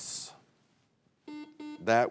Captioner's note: buzzer beeps